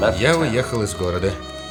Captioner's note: typing